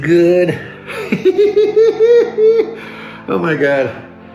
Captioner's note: laughter